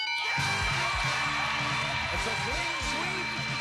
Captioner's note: cheers and applause